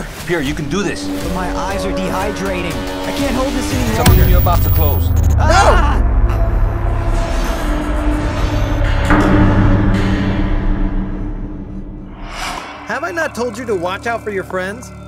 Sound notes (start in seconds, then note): 5.4 screams; 9.1 horror music playing